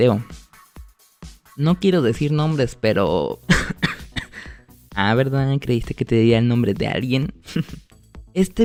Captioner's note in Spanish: risas